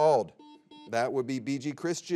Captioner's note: buzzer beeps